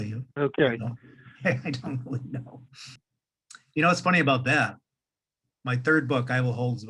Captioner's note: laughing